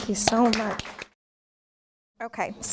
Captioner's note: applause